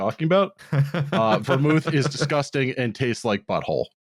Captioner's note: laughs